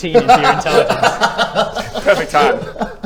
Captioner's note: crazy laugh